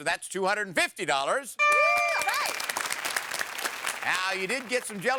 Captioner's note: audience applause